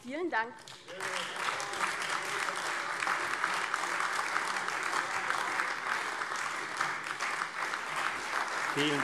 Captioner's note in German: Beifall AfD